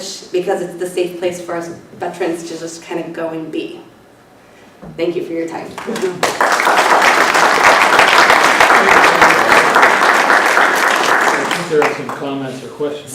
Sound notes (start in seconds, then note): 5.7 applause